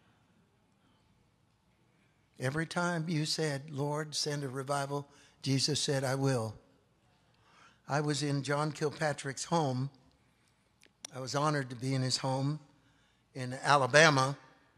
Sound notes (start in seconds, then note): none